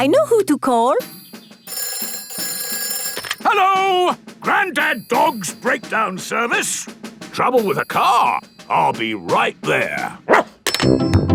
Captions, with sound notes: I know who to call! (TELEPHONE RINGING) Hello! Granddad Dog's Breakdown Service. Trouble with a car? I'll be right there! Woof!